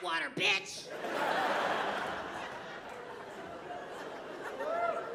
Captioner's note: audience laughing